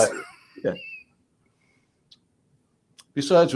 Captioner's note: laughs